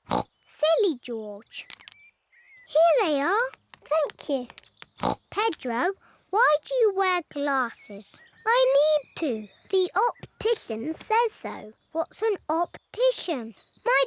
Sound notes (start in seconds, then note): 0.0 snorts; 5.0 snorts